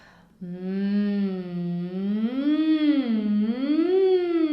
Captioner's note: humming